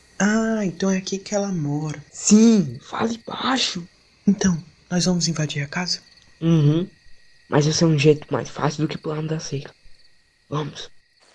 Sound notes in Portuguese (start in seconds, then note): 2.7 sussuro; 4.5 sussurro; 7.2 sussuro